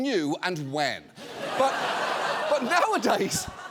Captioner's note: audience laughing